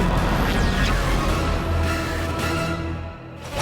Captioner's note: none